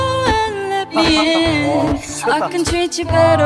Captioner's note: haht. haht. haht